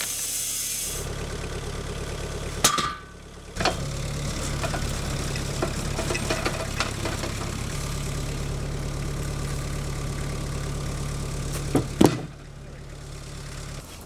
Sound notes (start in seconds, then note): 1.2 engine revving